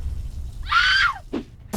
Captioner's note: woman screams